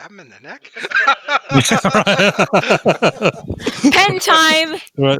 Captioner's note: laughter